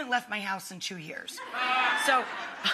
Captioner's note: audience laughing